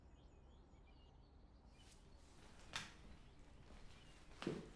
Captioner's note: birds chirping